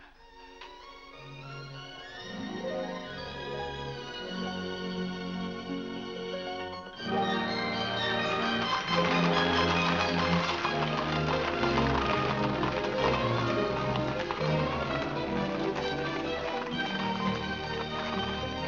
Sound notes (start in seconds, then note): 0.3 romantic music; 6.9 upbeat music; 8.0 hooves trotting; 8.8 upbeat music